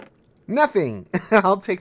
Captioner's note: laughs